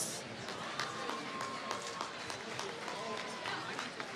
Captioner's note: applause